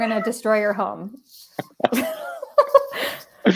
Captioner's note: laughter